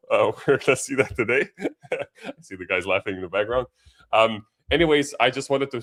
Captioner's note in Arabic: ضحك